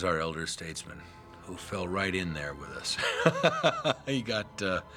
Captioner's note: laughing